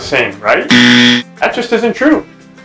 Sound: buzzer sounds

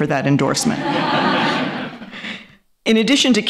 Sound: laughter

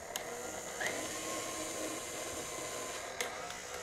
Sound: mixer whirs

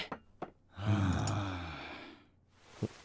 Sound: exasperated sigh

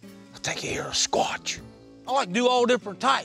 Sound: owl calls; whispering

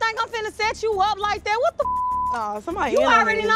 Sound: beep

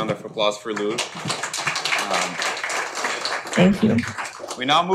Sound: audience clapping

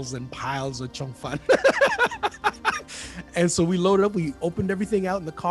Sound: laughs

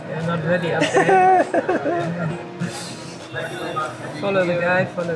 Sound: host giggles

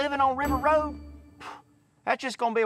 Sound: sighs

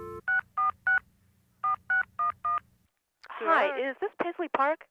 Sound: phone line buzzing; phone buttons beeping

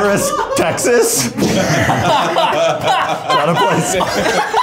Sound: everybody laughs

